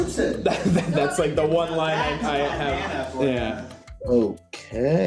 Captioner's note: laughs